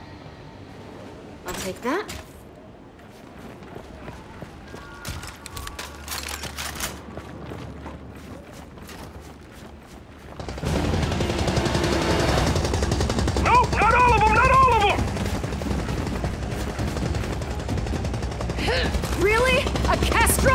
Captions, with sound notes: I'll take that. (gunfire) - Nope, not all of them, not all of them. - Really, a Castro?